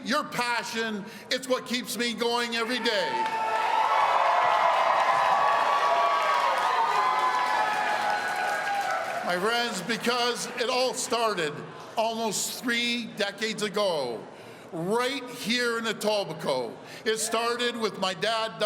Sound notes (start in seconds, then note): 5.9 cheers and applause